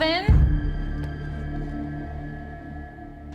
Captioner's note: creaking